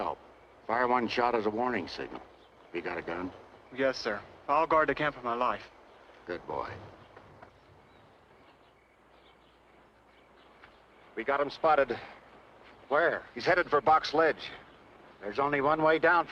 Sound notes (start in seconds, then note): 8.1 birds chirping